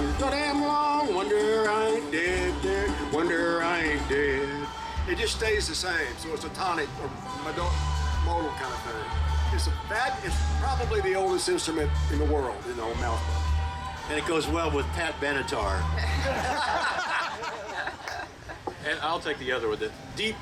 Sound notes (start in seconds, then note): 15.9 group laughing